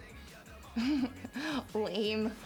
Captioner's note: laughs